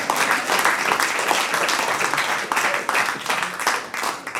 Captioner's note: audience applauds